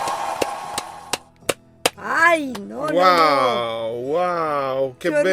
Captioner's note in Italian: Applauso